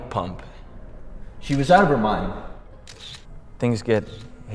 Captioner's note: camera clicking